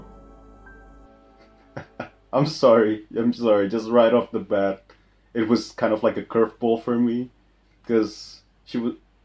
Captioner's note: haha